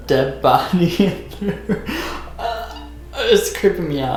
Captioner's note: laughter